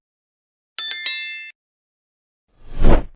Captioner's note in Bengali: ঘণ্টা